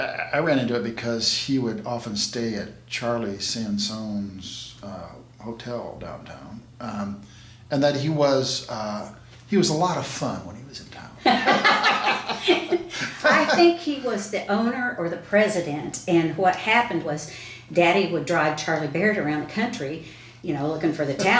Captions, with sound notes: I ran into it because he would often stay at Charlie Sansone's hotel downtown, and that he was a lot of fun when he was in town. (both laughing) - I think he was the owner or the president, and what happened was daddy would drive Charlie Barrett around the country looking for the talent,